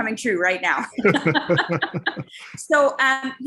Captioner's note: laughing